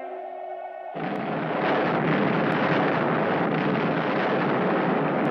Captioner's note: explosion booming